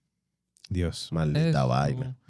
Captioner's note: speaking Spanish